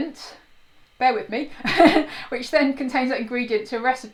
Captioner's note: laughs